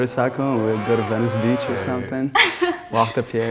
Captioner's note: giggles